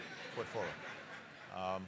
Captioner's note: laughter